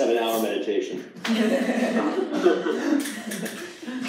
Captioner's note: laughter